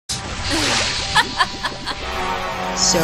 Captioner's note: laughing